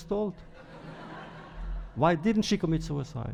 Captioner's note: laughter